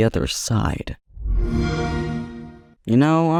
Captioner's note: Xbox One startup plays